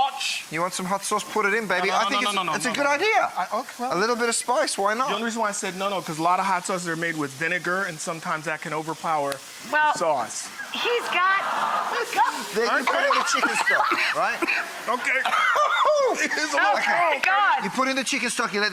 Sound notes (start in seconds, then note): 10.9 laughing; 12.6 coughing